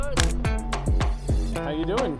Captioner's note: camera clicks